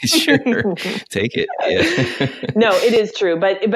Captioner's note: laughter